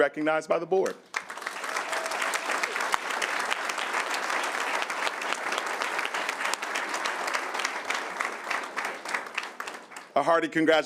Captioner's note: applause